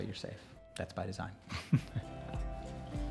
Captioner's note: laughs